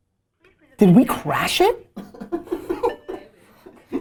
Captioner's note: laughter